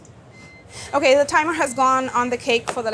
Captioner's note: oven beeping